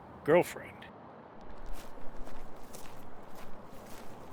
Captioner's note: footsteps crunching